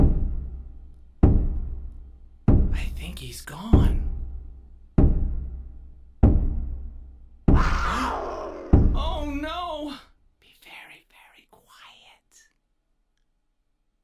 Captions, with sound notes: I think he's gone. *roar* Oh No! (whispers) Be very very quiet.